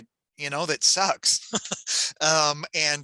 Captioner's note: chuckles